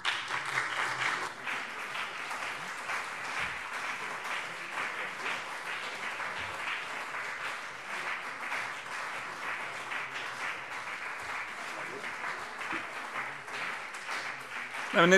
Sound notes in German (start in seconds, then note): 0.0 Beifall CDU und BÜNDNIS 90/DIE GRÜNEN